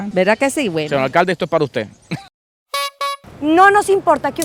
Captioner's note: laughter